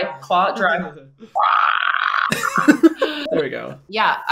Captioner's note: laughs; roars